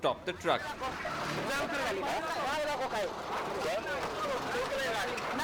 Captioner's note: speaking hindi